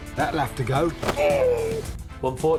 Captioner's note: groans painfully